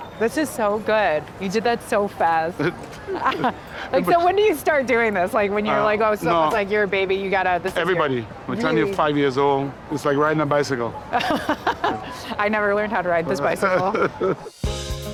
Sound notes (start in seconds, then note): 11.1 laughter